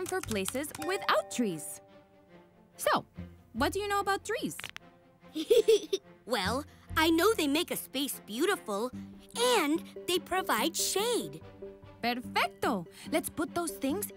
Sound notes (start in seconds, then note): 4.5 knuckles crack